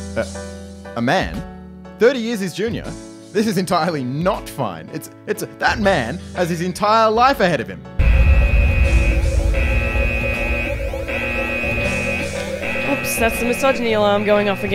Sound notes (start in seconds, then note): 8.0 alarm sound